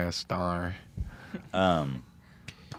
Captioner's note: laughs